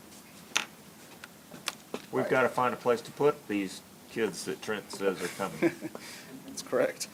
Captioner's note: laughs